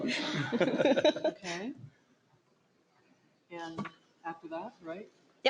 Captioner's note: laughter